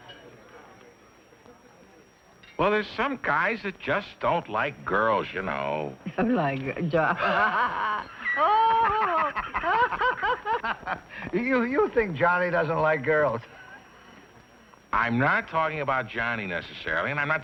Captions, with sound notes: -Well, there's some guys that just don't like girls, you know. -[LAUGHTER] -You think Johnny doesn't like girls? -I'm not talking about Johnny necessarily.